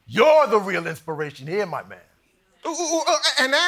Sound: none

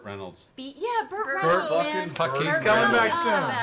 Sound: group noises of approval

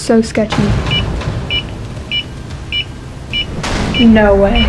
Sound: sensor beeping

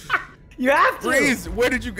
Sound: laugh

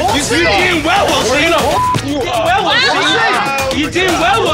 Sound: beep

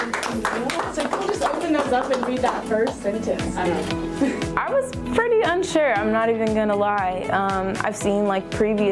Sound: cheering and Applause

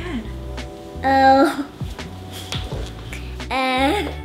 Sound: laughs

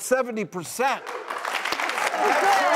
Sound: applauding

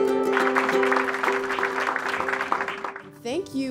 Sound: group clapping

